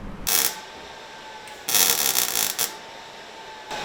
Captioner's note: tool buzzing